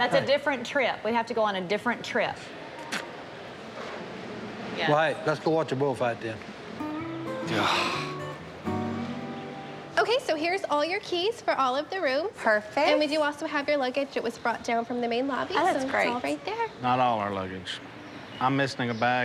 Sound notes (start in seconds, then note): 2.1 smacks lips; 7.4 sighs deeply